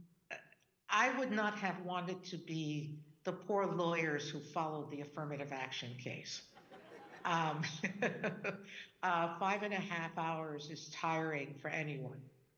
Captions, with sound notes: - Well, I would not have wanted to be the poor lawyers who followed the affirmative action case. (audience laughing) (Justice Sonia laughing) Five and a half hours is tiring for anyone.